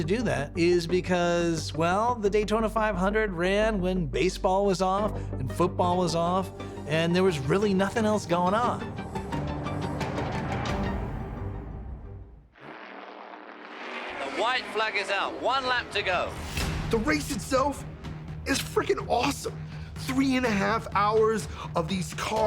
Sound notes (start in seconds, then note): 8.8 pensive dramatic music; 13.3 engines roaring